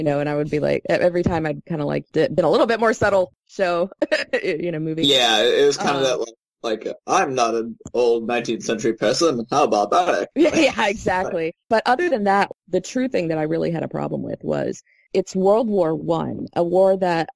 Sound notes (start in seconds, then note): 5.0 laugh